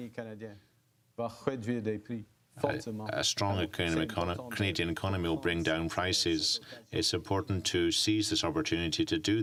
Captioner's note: speaking French